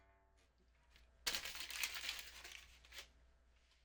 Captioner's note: paper crinkling